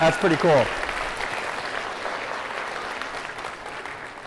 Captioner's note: applause